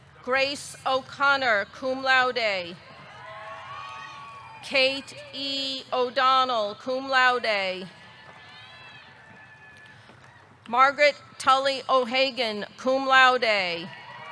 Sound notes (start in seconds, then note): 3.0 audience cheering; 8.1 audience cheering; 13.9 audience cheering; 14.1 audience clapping